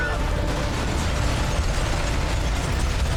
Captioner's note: glass shattering